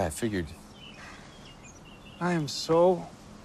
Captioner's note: Terrence sighing